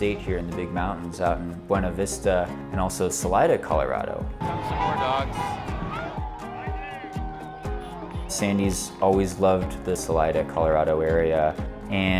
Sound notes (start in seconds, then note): 5.4 people chattering